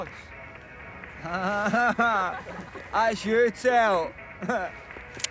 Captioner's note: laughing drunkenly